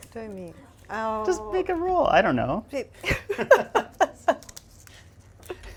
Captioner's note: laughs